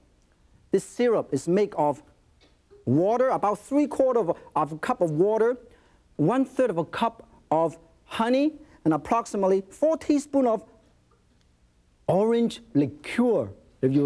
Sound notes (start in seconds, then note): none